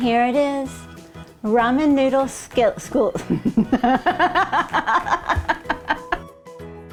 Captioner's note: laughing